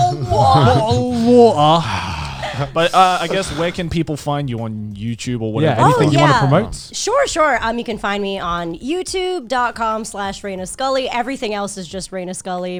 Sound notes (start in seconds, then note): 0.0 Aussie accent; 0.2 Australian accents intensify; 1.6 echoing; 2.5 sighing